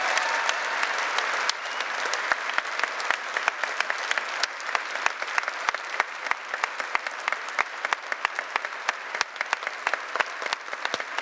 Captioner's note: cheers and applause